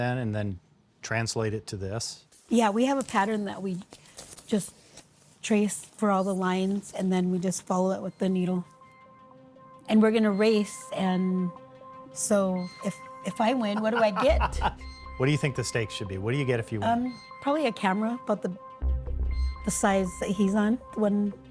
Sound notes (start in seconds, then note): 13.6 laughs